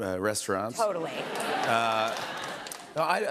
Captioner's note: laughter